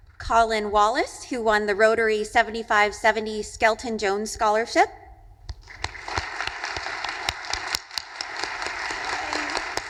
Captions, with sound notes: Colin Wallace, who won the Rotary 7570 Skelton/Jones Scholarship. (audience applauding)